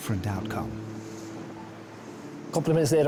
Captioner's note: gentle music; water whooshing